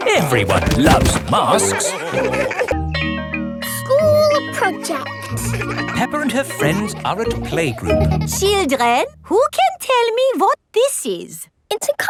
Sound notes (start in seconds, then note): 2.7 school bell rings